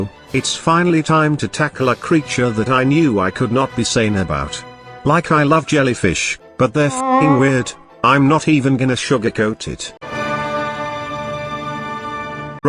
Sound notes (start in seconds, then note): 6.9 jelly honk